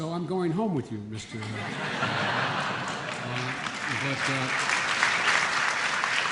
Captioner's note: laughter and applause